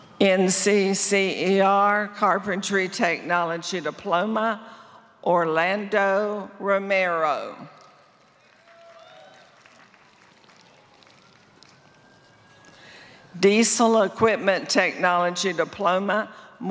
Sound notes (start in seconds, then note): 7.7 applause